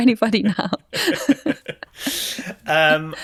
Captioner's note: both laughing